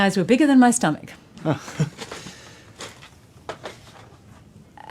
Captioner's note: chuckles